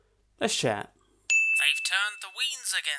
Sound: ding!

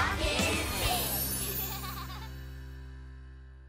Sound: children giggling

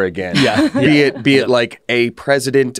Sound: laughs

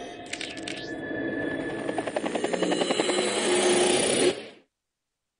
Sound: helicopter propeller noises

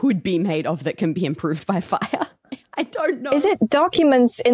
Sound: laughs

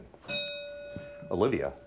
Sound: bell ringing

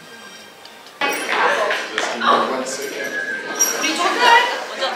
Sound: the door opens

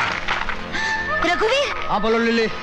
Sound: gasps

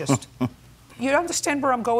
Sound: laughs

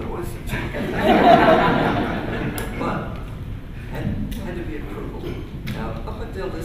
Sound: laughter

